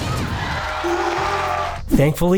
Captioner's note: screams of frustration